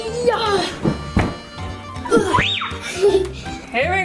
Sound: grunts; screams

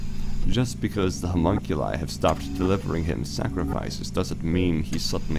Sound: mechanical ambiance

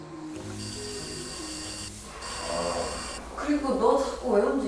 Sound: vibrating

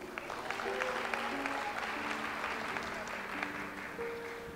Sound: audience applauds

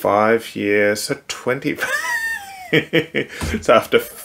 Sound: laughing

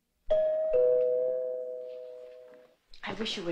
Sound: doorbell ringing

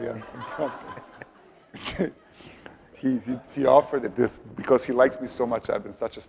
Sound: laughing

